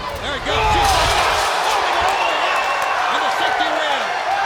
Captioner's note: applause